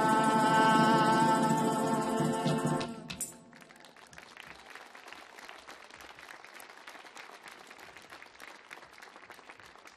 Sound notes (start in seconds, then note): 2.8 audience clapping